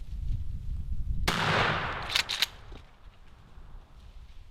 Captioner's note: gun shot